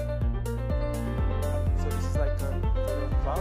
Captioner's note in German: Leise Stimmen